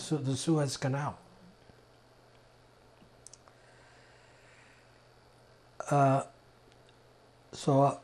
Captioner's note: pauses 6 seconds